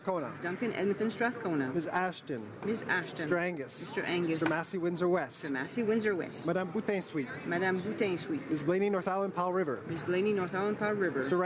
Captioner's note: calling of recorded vote